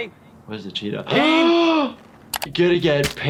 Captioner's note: shocked gasp